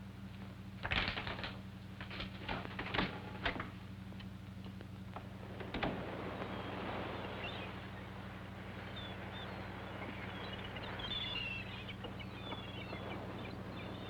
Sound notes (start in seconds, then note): 8.0 seagulls